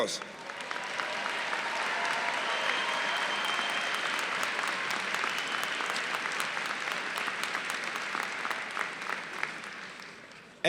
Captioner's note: applause